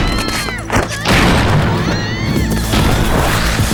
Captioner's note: screaming